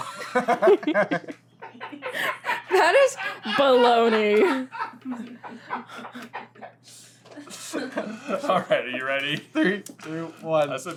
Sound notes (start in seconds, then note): 0.0 laughter; 5.6 is still cracking up